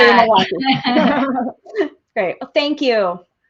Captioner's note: all laughing